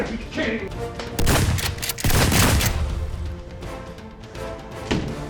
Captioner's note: shotgun firing